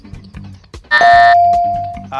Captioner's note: buzzer buzzing; bell dings